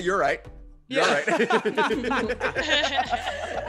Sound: laugh

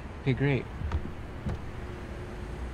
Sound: car shifts into gear

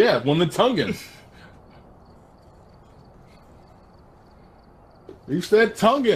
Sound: long pause

